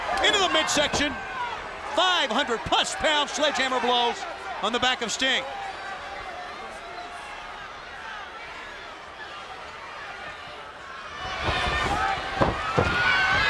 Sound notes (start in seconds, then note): 5.9 crowd yelling